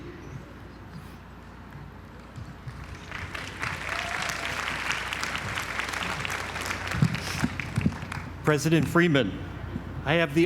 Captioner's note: applause